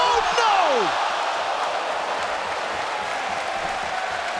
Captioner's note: audience cheering